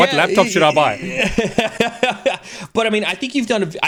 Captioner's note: laughs